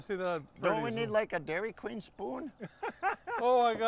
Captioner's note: laughing